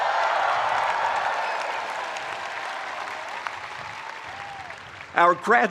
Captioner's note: spectators applauding; spectators cheering